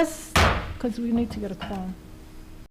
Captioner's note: hits gavel